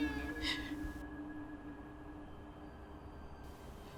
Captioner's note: baby crying